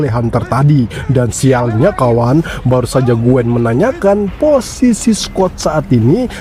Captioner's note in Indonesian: tertawa